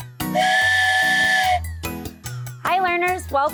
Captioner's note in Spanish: suena el silbato